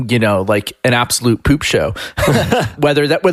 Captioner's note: chuckling